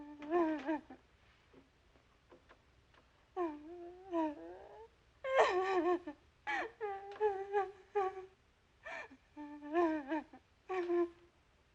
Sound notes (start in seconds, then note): 0.1 whimpering; 5.3 crying